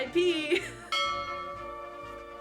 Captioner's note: bell dings